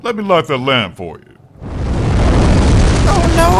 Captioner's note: fire breathing sfx